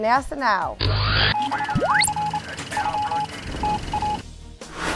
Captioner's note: sound Effects